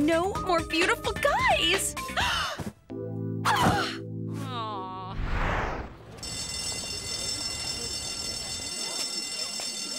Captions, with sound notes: No more beautiful guys. [school bell ringing]